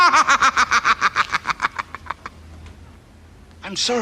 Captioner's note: laughter